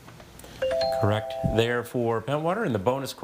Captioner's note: text chiming